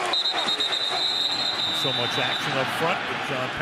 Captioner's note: whistles blow